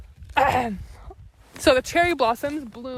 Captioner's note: clears throat